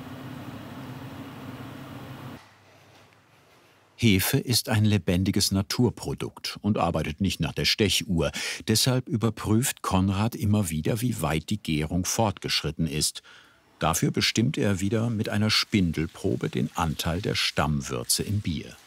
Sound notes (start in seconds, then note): 2.4 footsteps